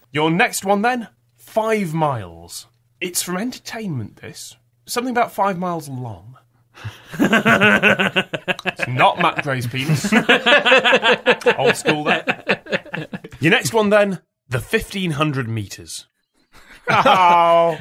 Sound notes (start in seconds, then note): 6.8 laughing; 10.1 laughter; 12.4 laughter